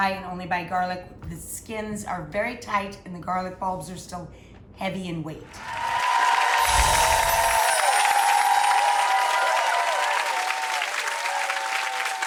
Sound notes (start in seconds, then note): 5.6 cheering, wind chimes